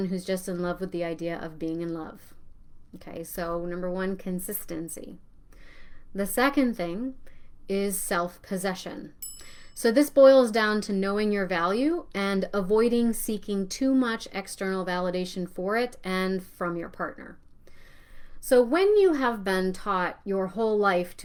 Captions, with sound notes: who's just in love with the idea of being in love." Okay, so number one, consistency. The second thing is self-possession. (bell rings) So this boils down to knowing your value and avoiding seeking too much external validation for it and from your partner. So, when you have been taught your whole life